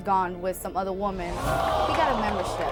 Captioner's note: audience groans